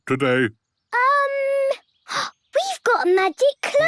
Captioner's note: gasps